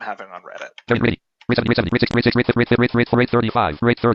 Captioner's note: screen reader speaks quickly